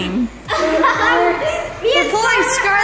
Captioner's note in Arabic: سكارليت وبرودي يضحكان